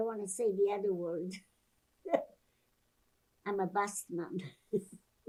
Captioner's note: laughing